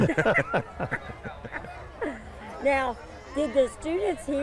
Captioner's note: all laugh